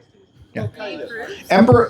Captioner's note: laughter